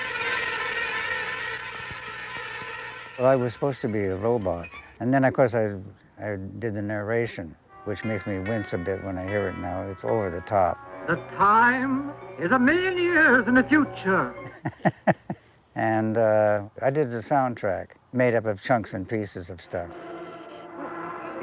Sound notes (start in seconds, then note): 14.4 chuckling